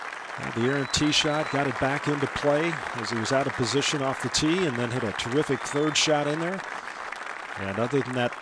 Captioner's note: cheers and applause